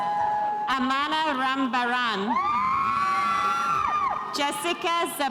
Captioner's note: spectators cheering